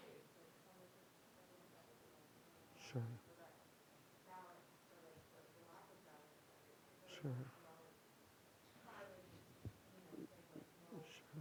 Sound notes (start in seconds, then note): 3.7 student speaking faintly